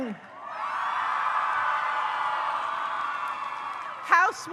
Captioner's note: audience cheers